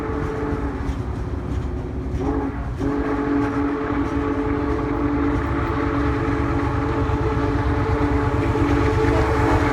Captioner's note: horn Blaring